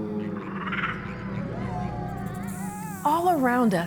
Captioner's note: animal howls, croaks, low hum, guttural cries